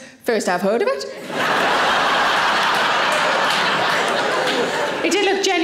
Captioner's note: audience laughing